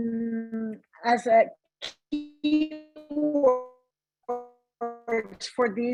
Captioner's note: audio distorts